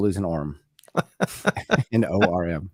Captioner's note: laughs